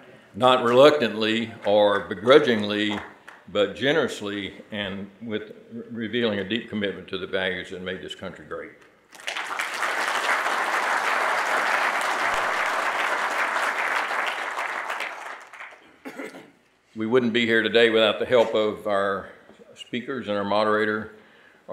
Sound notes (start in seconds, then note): 9.1 audience applauding